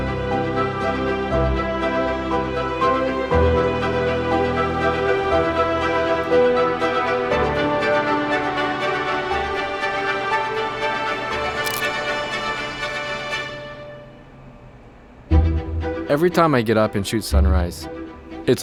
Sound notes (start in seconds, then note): 3.2 orchestral music swells; 11.6 camera clicking